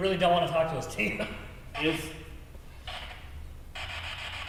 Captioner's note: static buzzing